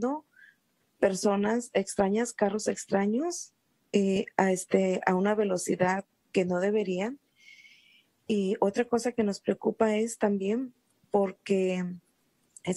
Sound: SpeakinSpanish

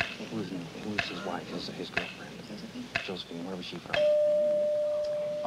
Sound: whispering

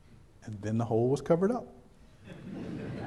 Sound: background chuckles

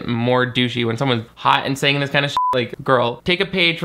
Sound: beep

